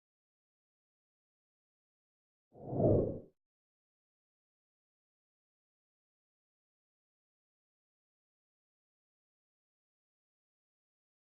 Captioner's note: noise and Silence